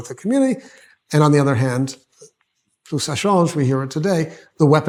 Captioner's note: hebrew